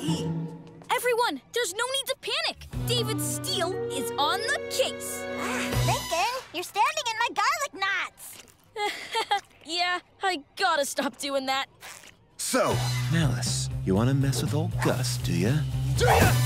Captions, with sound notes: Everyone, there's no need to panic. David Steele is on the case. Ah! Lincoln, you're standing in my garlic knots! [chuckles] Yeah. I've gotta stop doing that. So, MALICE, you wanna mess with old Gus, do ya? DO YA?!